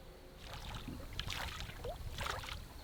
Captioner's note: water splashing